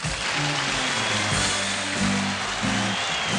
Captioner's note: applause